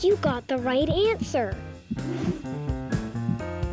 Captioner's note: whooshing sound